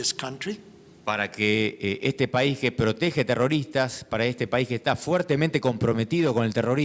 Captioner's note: speaking in foreign language